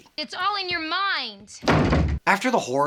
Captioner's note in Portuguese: porta bate